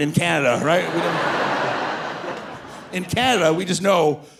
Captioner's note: audience laughing